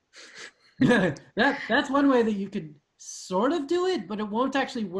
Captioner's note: laughing